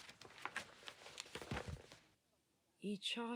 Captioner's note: papers rustling